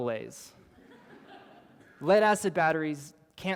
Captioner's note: laughter